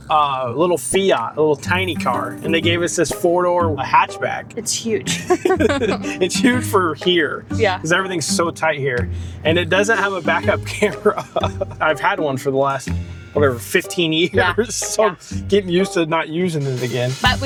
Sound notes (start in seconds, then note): 5.0 laughing